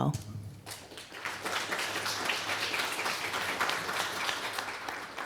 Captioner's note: applause